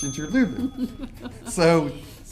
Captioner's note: laughing